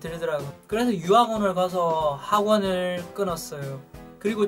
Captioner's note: Korean